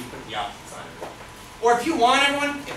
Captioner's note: speaks softly